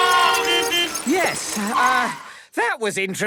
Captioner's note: beeping; whistle blowing